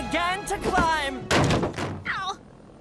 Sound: crack

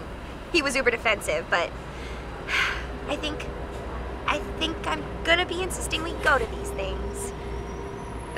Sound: sigh

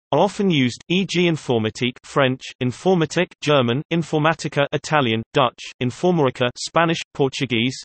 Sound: German

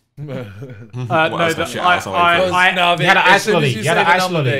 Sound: men clapping

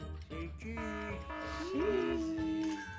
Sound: buzzer buzzing; camera clicking

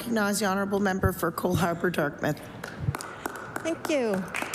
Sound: applause

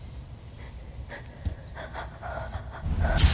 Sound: heavy breathing

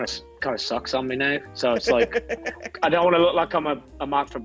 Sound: laugh

